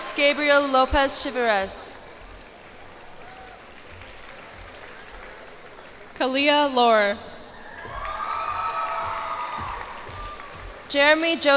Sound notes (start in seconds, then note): 2.2 cheers and applause; 7.5 cheers and applause